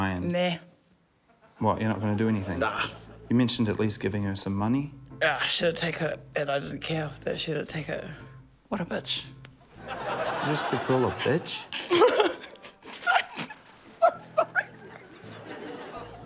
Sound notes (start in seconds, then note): 9.8 laughter; 13.3 laughs; 14.2 laughter